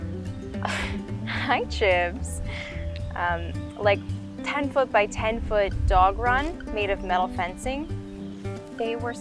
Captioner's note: laughs